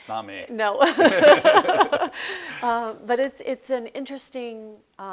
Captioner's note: laughs